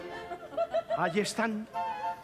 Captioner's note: laughs